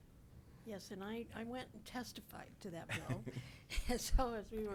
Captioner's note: chuckles